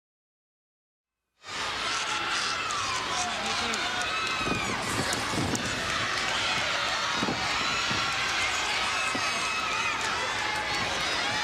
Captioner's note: crowd chatter